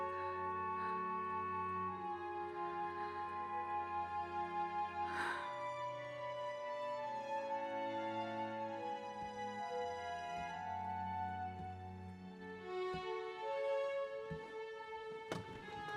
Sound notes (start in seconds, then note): 5.1 Joan sighing; 12.2 dramatic orchestral music